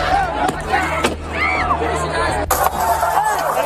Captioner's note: crowd cheering